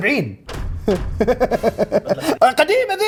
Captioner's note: laughs